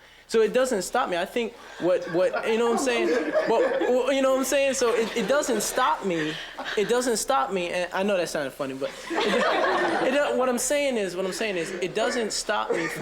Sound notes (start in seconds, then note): 3.3 crowd laughing; 8.9 students laughing